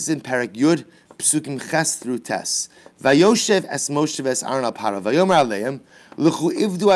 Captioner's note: Hebrew